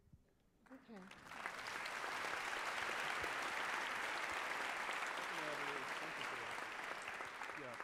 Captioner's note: applause